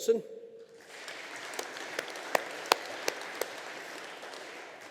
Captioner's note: audience applauding